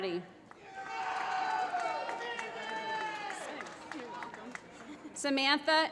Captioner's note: applause